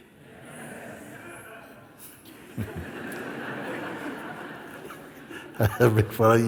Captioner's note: laughter